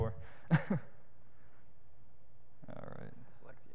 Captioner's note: laughs